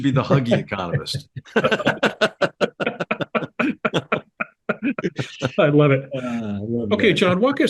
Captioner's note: laugh